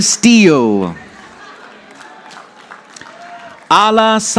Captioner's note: audience applauding